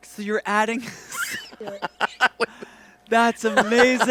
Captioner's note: both laughing